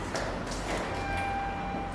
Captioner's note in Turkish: kapı zili sesi